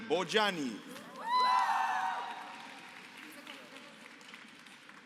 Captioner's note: applause